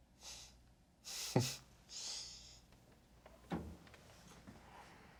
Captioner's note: Pierre-Marc chuckles